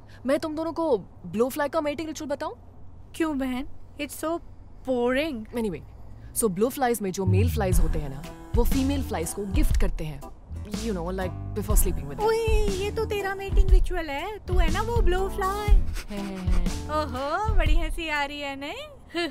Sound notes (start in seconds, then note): 15.9 sniggering